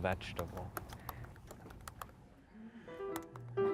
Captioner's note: keys clack; playful piano music